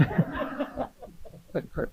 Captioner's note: audience and panelists laughing